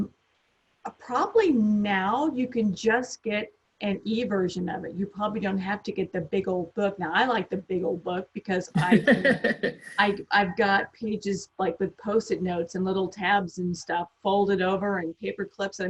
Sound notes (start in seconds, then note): 8.7 laughs